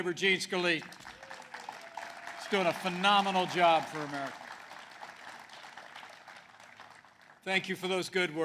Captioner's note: applause